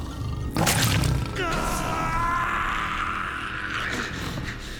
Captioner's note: shrieking